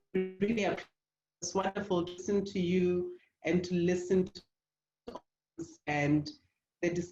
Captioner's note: distortion